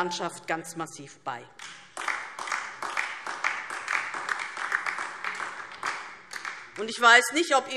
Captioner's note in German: Beifall DIE LINKE